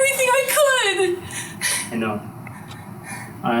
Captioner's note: quietly